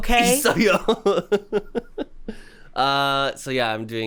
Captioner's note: chuckling